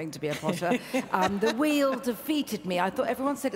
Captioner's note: laughs